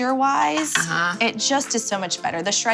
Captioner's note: utensil taps